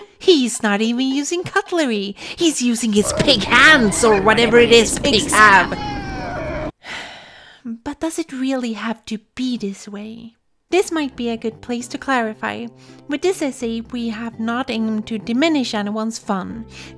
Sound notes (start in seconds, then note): 6.8 sigh